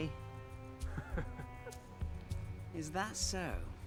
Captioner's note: man laughs